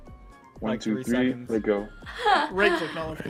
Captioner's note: laughs